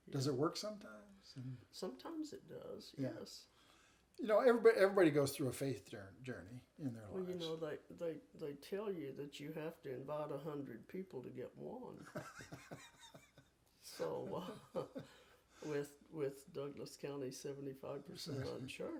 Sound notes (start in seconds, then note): 12.1 chuckling